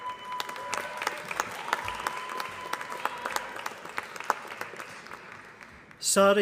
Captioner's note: applause